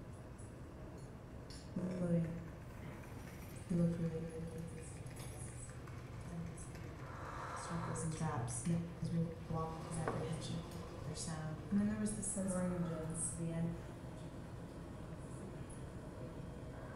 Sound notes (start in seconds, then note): 2.7 light tinkling and muffled words